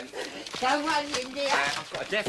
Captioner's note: speaking gibberish